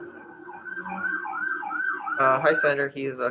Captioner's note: emergency sirens blaring